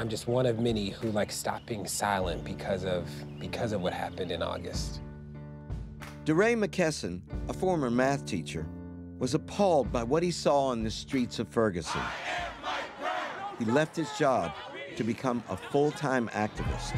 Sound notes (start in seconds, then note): 6.2 voiceover; 11.8 crowd; 13.7 voiceover